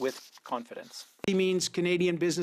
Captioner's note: speaking French